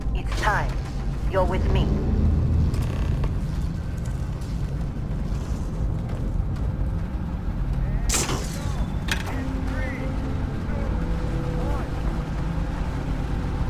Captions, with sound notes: It's time. You're with me. [MECHANICAL ENGINE] [GUNSHOT] Two, three, two, one.